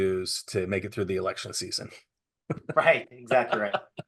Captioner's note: laughing; chuckling